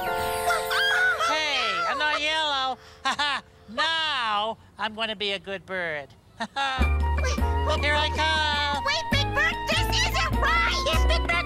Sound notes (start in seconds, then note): 3.2 laughs; 6.8 upbeat music